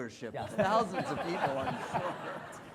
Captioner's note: audience laughing